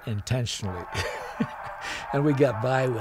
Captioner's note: chuckling